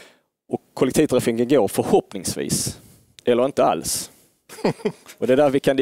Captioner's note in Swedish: skratt